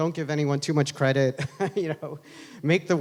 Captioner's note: laughs